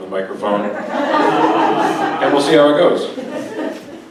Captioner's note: audience laughs